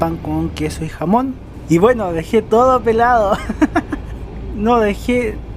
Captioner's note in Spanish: risas